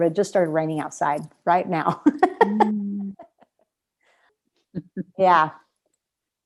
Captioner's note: laughter